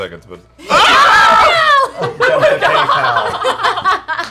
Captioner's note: laughter